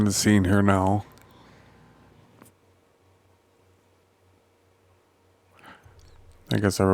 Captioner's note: silence